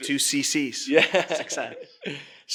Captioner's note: laughs